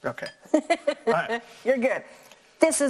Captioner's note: laughs